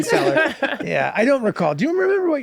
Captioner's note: laughter